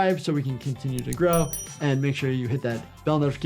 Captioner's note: bell chimes